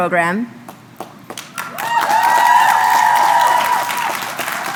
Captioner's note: applause